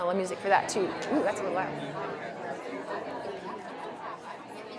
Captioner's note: audience chattering